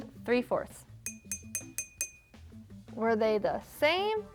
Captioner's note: jar tinking